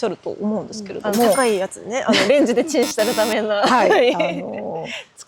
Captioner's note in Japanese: 笑い